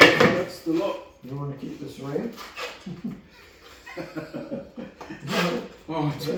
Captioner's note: laughing